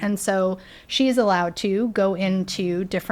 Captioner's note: none